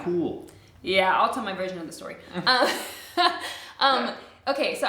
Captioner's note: laughs